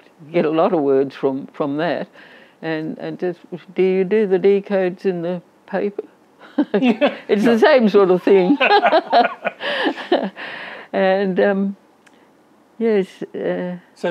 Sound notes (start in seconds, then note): 8.1 both laugh